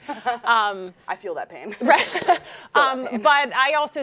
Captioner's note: chuckles